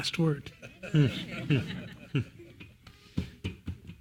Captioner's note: laugh